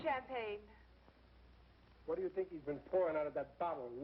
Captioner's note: none